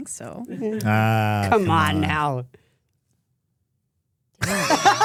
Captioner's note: laughing